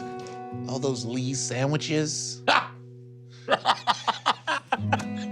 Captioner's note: laughs